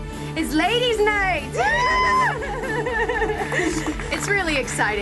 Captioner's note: laughing